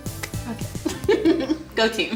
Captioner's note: giggles